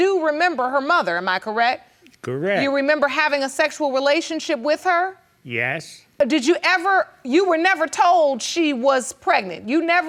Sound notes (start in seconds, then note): none